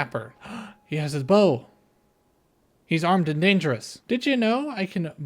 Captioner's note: gasp